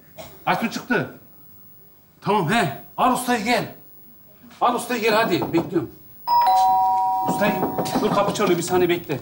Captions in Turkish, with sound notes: Aysun çıktı Tamam, al ustayı gel Al ustayı gel hadi bekliyom (Zil çalar) Dur kapı çalıyo bi saniye bekle